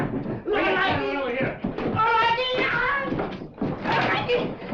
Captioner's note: sing shouts